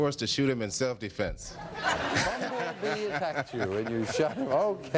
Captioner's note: audience laughs; laughs